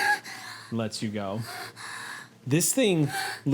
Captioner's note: panting